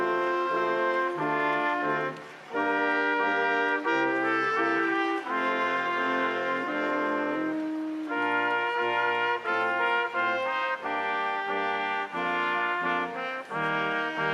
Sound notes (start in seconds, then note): 2.9 crowd applauding; 2.9 instrumental music continues